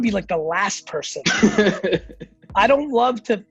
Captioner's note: laughs